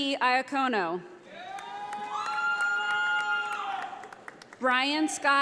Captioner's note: audience applauding